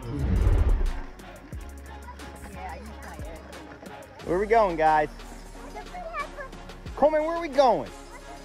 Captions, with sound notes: (dinosaur grunts) - Where are we going, guys? Coleman where are we going?